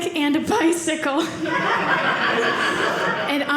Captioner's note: audience laughing